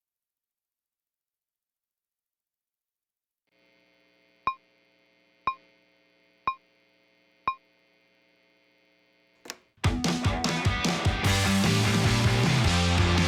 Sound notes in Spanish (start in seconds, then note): 9.4 clic; 9.8 música rock